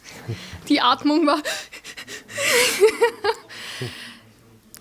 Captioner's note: breathes anxiously